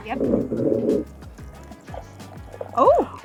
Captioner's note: water sloshing